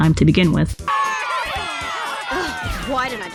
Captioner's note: cheering